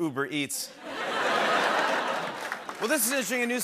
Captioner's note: laughter